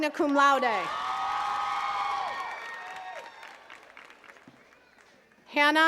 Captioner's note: attendees cheering and clapping